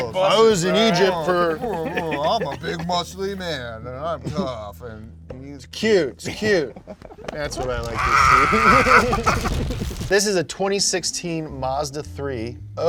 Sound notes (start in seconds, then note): 7.8 screaming; 8.3 laughing softly